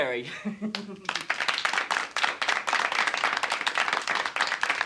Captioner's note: all applauding